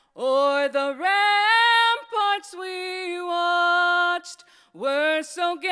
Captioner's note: none